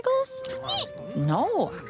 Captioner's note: squeak